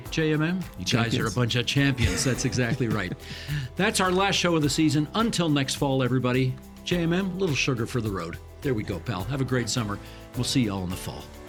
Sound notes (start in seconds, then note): 3.0 chuckling